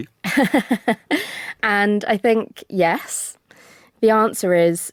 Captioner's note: laughs